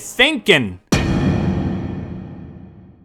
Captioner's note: thud sound effect